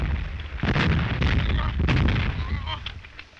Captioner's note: groaning